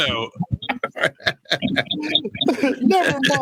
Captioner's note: laughing